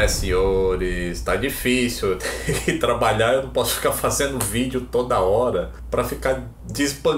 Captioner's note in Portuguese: risadas